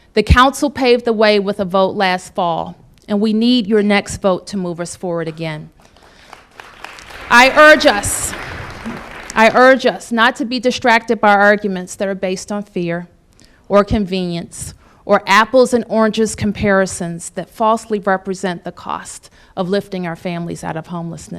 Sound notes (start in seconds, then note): 5.8 applause